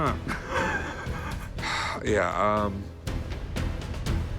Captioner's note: chuckles; Rick exhales sharply; suspense music